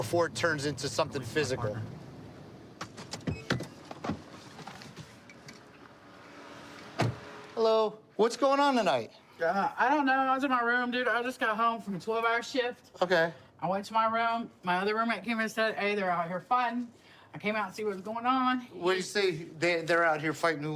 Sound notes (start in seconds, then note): 3.2 beeping